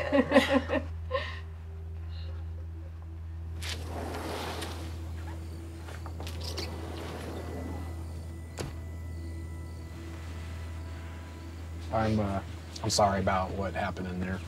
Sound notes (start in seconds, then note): 0.0 Lucy laughs; 3.6 door sliding; 7.8 crickets chirping